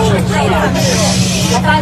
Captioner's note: crowd muttering